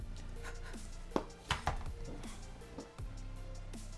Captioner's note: blows